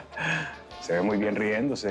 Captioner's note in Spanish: Risas